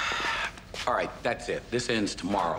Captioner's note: sighing